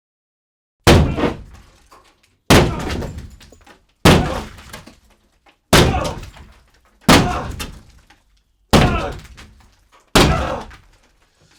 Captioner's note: dead silence; multiple ax blows, multiple Hbomb grunts